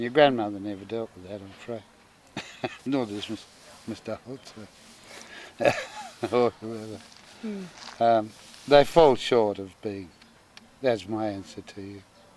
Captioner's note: laughter